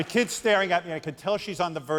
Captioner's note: cheers and applause